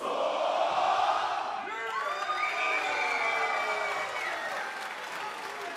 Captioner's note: fans chanting; cheers and applause